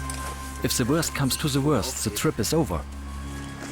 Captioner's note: in German